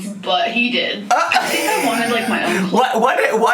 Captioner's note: laughs